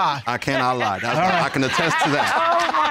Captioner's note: laughing